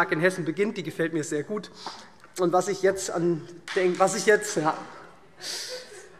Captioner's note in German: Beifall SPD und DIE LINKE